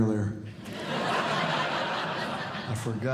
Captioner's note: audience Laughing